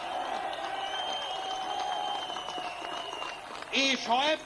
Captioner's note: cheering